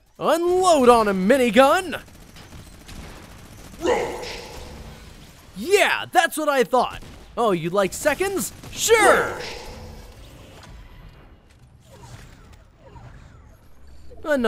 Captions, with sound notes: Unload on 'em, Minigun! (gunshots) - Roached! Yeah, that's what I thought. Oh, you'd like seconds? Sure! - Roached! (game effects)